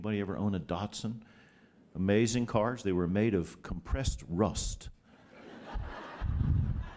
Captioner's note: laughter